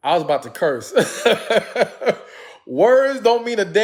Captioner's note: laughs